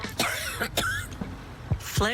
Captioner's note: coughing